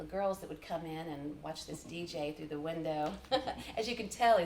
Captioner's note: chuckles